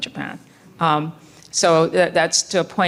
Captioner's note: breathing